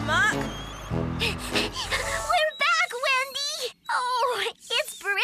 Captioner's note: panting